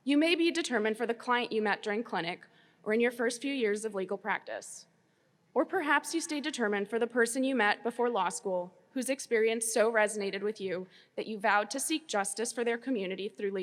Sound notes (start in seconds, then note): none